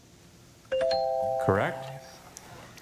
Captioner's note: bell chimes